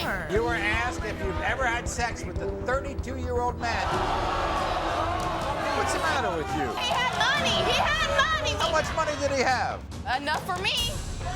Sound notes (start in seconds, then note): 3.8 audience groans